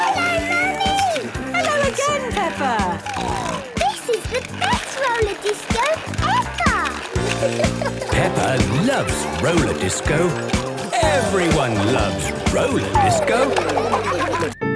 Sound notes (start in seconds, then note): 2.8 snorting; 13.4 laughter